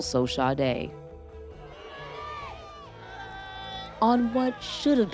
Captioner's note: family chatters